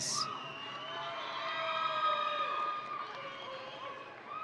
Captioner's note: audience cheering